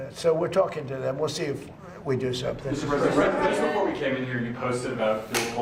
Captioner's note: laughter